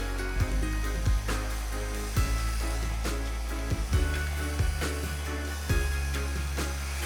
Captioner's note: blower whirring; pleasant music